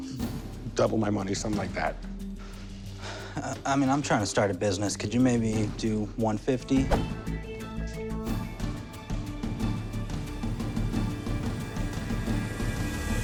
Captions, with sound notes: Double my money. Something like that. [sighs] I mean, I'm trying to start a business. Could you maybe do 150?